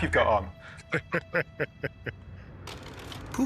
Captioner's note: chuckles